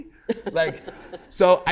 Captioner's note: laughter